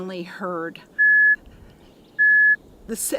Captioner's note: beep, beep, beep